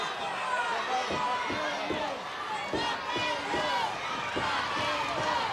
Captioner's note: audience chanting